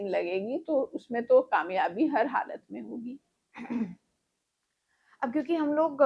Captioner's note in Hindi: गला साफ़ करने की आवाज़